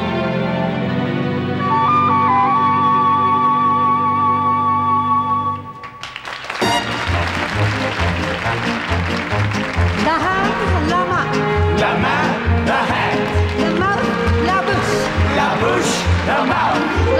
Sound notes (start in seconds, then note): 6.7 audience applause; 6.7 upbeat music